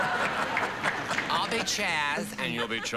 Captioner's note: laughter